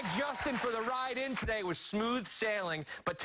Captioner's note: cheers and applause